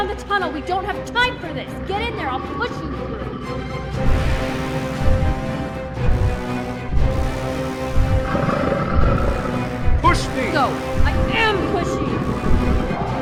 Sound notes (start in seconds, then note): 3.5 dramatic music; 8.2 creature growling